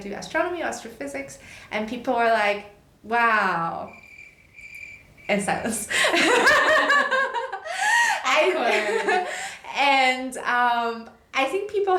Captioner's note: crickets